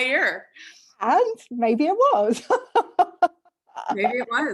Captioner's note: laughs